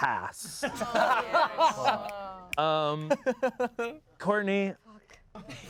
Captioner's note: everyone laughs